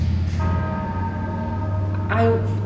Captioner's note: bells tolling